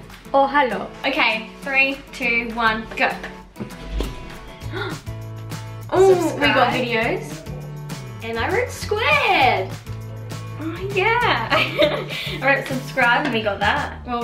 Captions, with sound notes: Oh, hello. Okay, three, two, one, go! (gasp) Oh, we got videos. - Subscribe? And I wrote Squared! - Oh, yeah! (laughs) - I wrote subscribe, and we got that.